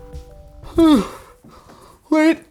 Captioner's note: yawn